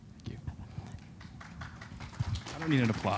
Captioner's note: applause